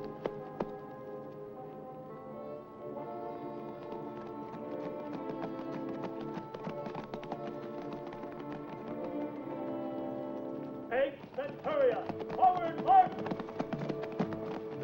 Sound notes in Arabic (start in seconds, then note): 0.2 موسيقى متوترة; 4.1 ضربات حوافر; 4.1 موسيقى متوترة; 13.3 ضربات حوافر; 14.6 موسيقى متوترة